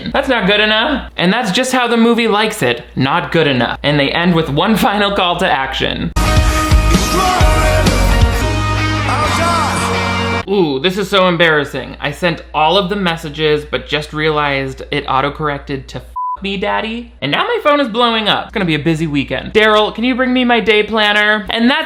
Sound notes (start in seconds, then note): 6.1 upbeat instrumental music; 9.0 crowd screaming; 16.1 beep